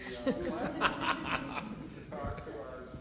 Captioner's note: panelists laugh